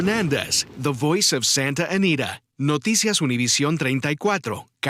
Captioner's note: speaking spanish